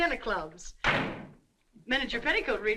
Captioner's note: door slamming